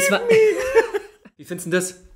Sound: laughs

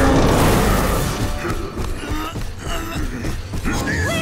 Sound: grunting, clanking

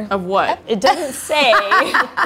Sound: laughs

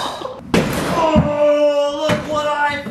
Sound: door banging

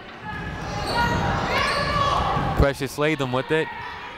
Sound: people shouting in the crowd

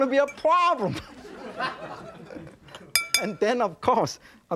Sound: audience laughing

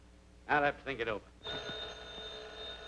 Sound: phone rings

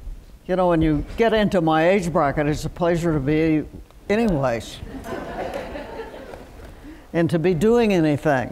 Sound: laughter

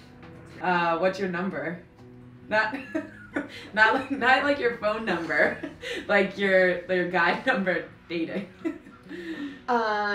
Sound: laugh

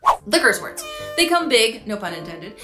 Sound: air horn honks

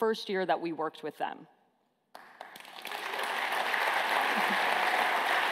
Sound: applause

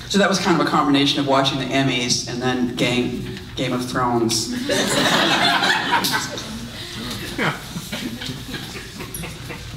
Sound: audience laughs

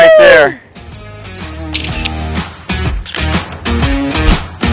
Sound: camera Shutter

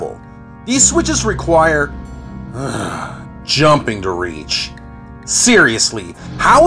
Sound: sigh

